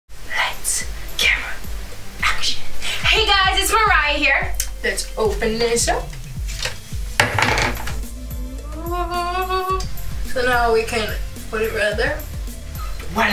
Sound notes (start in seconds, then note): 6.1 rustling; 6.8 howling